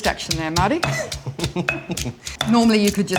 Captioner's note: laughs